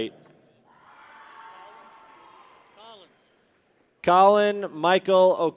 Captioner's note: people cheer